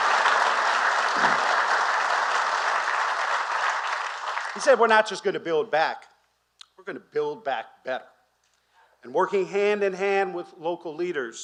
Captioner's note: applause